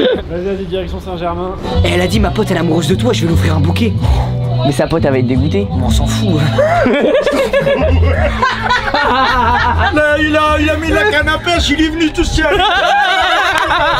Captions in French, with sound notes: - Vas-y vas-y, direction Saint-Germain - Elle a dit “Ma pote elle est amoureuse de toi” J’vais lui offrir un bouquet - Mais sa pote elle va être dégoûtée - On s'en fout... *rire* - Là il a mis la canne à pêche Il est venu tout seul